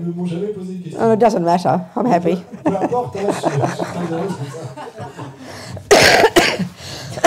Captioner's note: laughter